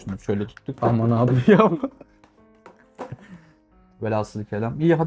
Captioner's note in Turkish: kahkaha